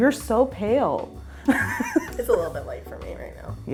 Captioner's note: laughing